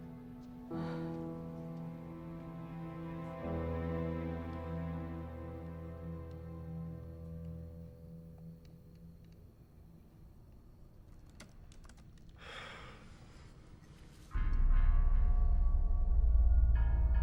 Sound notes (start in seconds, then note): 9.3 keyboard typing; 14.3 eerie music